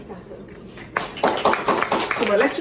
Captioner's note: applause